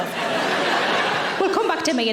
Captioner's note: audience laughing